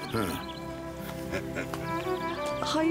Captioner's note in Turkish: Gülüyor